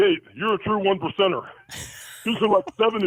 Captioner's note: laughs